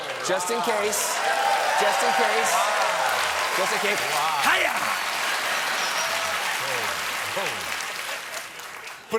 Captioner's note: cheers and applause